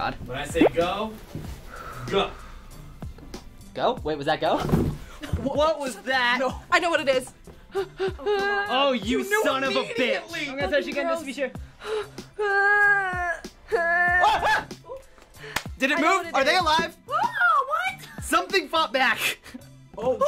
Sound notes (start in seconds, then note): 7.7 whimpering; 13.6 yelping